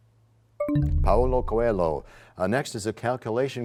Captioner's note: bell chimes, time expires